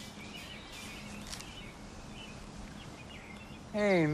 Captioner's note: birds chirping